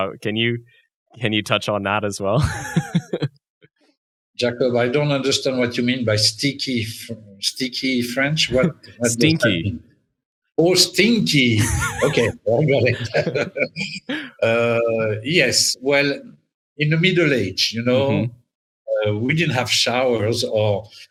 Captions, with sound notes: Can you touch on that as well? (Chuckles) - Jacob, I don't understand what you mean by "sticky French" what? - Stinky. - Oh, stinky. Okay, I got it. (Chuckles) Yes. Well, in the Middle Age, you know, we didn't have showers